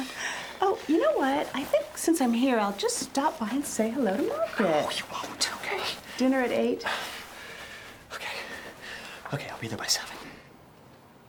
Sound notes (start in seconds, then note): 5.0 whispers; 7.3 Addison scoffs